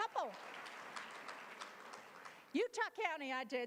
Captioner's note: applause